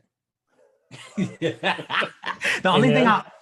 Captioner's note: all laughing